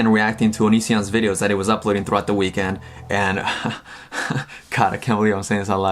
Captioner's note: laughs